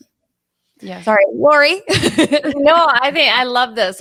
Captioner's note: laughs